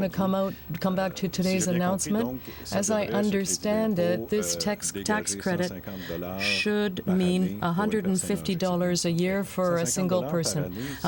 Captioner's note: speaking french